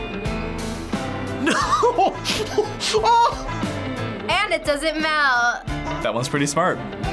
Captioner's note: laughs